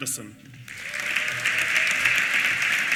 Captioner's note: applause